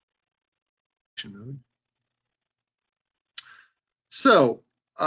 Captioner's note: murmurs